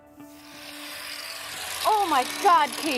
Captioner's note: machines whirring